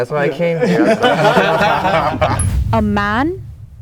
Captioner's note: everyone laughing